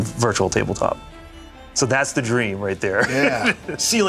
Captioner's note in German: lacht